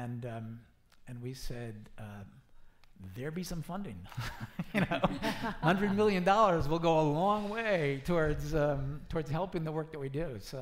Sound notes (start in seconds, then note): 4.6 laughing